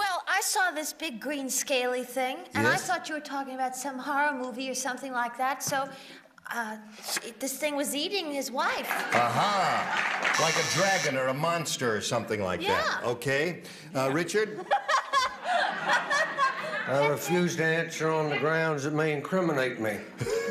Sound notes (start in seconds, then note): 8.9 applause; 12.2 Elaine laughing